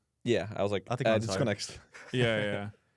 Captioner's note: laughs